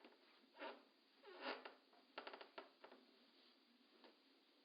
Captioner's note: floorboard creaking